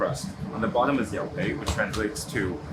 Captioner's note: speaks in foreign language